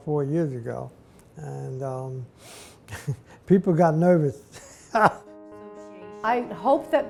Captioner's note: laughs